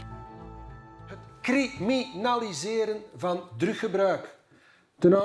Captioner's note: Dutch spoken audio